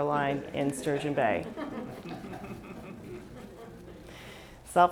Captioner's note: laughs